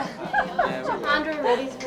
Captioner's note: group chuckles